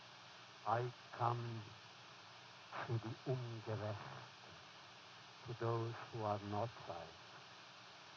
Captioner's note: foreign language